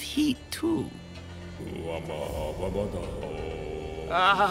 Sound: humming

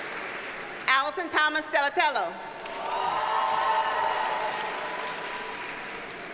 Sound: audience cheers and applauds

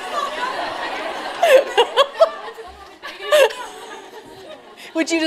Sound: laughter

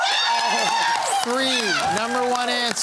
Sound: cheering

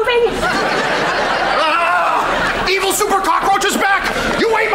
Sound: groaning

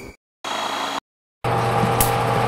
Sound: motor noise

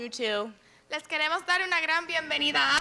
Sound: speaking in spanish

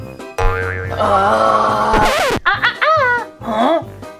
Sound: groans

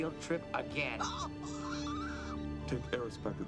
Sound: shrieking

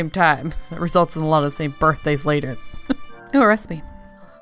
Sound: laughs

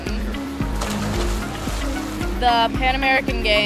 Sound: splash

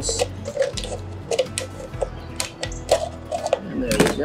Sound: bottle crunching

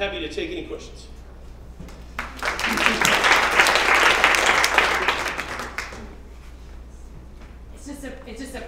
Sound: applause

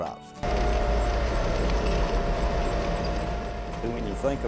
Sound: engine roars

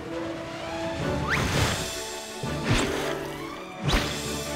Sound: water splashes

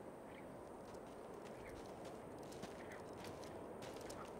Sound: feet pattering

